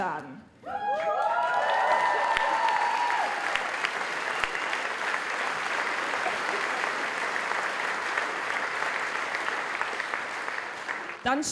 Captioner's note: applause